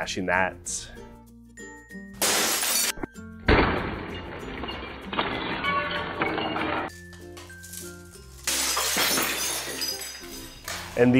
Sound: loud glass crashing and slo mo audio

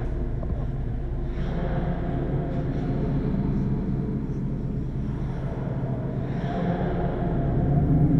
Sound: echoing

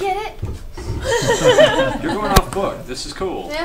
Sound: all laugh

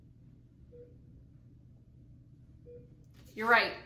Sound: beeping

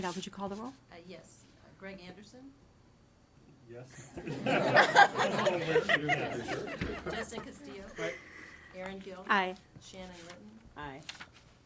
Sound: laughter

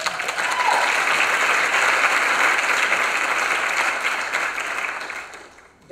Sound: applause

